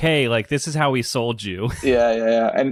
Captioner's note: laughs